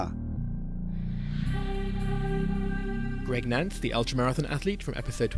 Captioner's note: voiceover